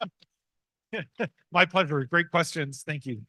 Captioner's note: laughs